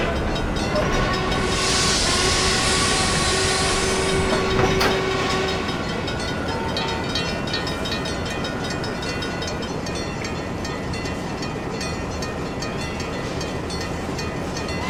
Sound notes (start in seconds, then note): 0.0 H-24-66 Trainmaster horn; 0.6 N&W Y6B whistle, diesel engine idling